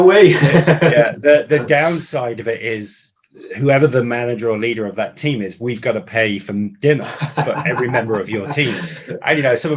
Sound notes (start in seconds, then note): 0.0 laughing